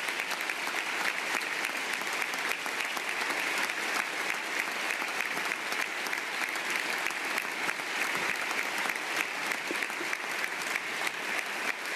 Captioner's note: applause